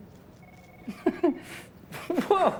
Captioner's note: laughs